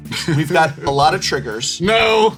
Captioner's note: laughs